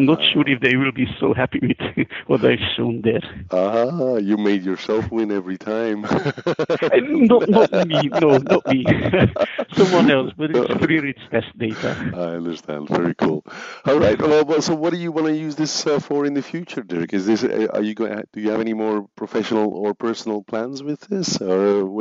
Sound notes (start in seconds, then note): 6.1 laughs; 9.1 laughs